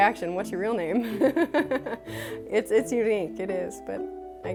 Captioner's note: laughter